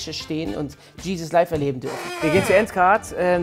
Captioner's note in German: Knarzen